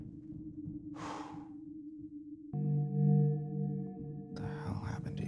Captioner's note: Kenny sighs